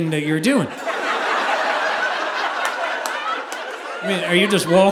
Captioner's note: audience laughing